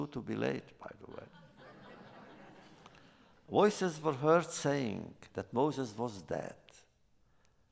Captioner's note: laughter